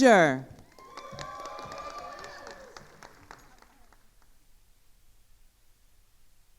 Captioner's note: attendees cheering and applauding